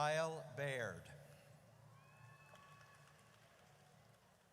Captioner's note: audience cheers